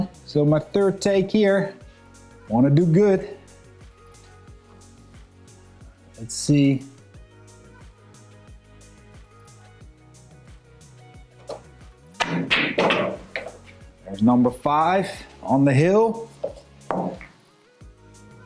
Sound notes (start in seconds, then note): 4.3 lively music; 7.8 lively music; 12.2 balls clanging